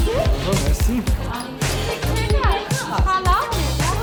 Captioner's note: speaking Armenian